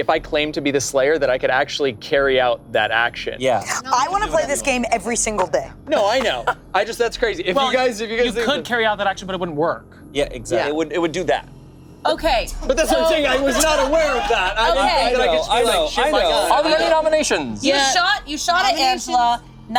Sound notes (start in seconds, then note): 15.6 group chattering